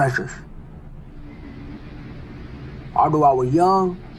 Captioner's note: noisy city